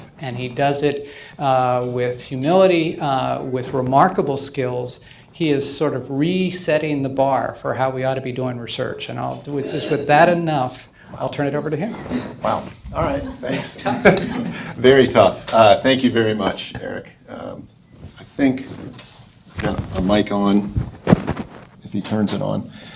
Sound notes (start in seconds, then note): 13.0 all laughing